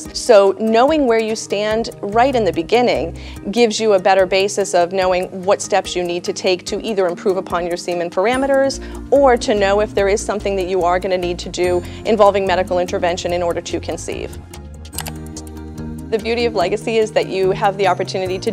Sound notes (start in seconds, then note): 14.9 slide clicks